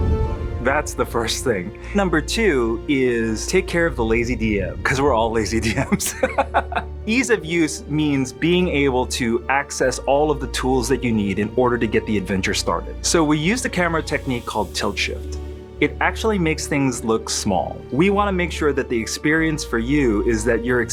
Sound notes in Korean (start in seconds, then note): 5.6 웃음